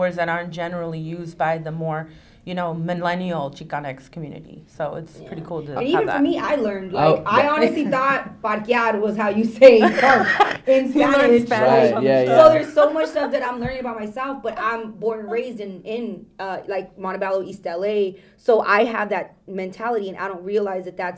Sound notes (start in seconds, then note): 8.2 foreign language; 12.8 all laughing